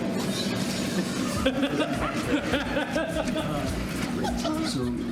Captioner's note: wild laughter